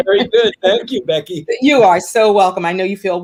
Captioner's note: laughter